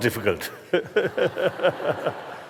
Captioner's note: laughter